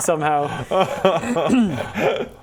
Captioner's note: rightfully smug laugh